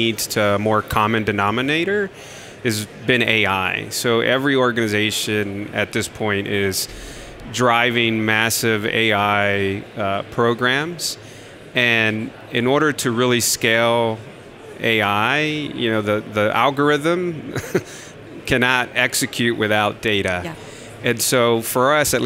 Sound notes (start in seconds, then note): 17.4 laughs